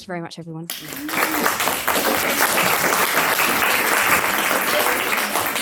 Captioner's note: everyone applauding